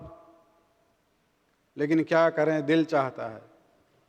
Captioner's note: urdu